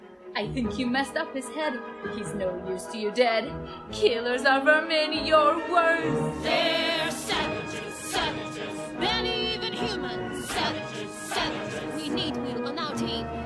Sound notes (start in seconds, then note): none